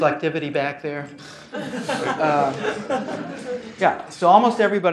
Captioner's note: laugh